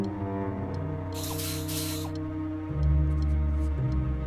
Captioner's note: whirring